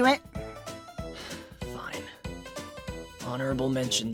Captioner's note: sigh